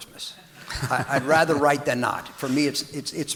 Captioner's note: audience laughing